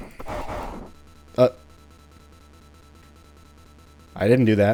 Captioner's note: game glitches